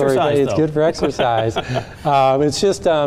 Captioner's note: laughing